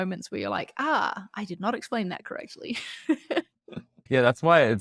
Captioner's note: laughs